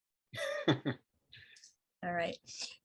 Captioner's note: laughs